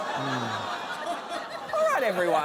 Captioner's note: audience groans